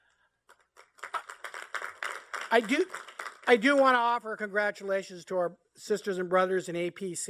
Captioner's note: applause